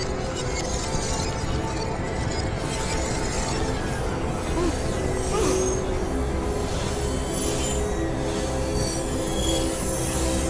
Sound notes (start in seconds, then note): 3.5 ben trembles